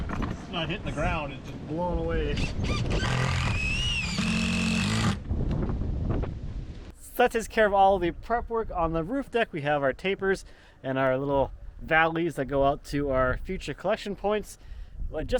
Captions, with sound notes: It's not hitting the ground. It's just blowing away. (drill whirring) (drill grinding) - So that takes care of all the prep work on the roof deck. We have our tapers and our little valleys that go out to our future collection points